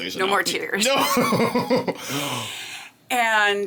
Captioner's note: laughing